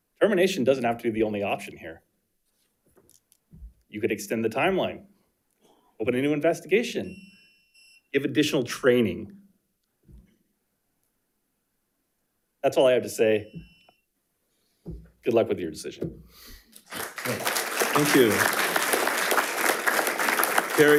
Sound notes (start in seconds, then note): 7.0 timer beeps; 19.0 attendees applauding